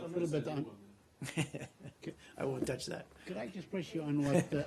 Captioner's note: laughter